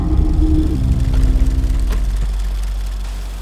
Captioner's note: film Reel Sound Effects